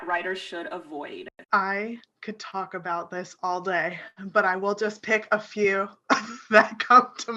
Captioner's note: chuckles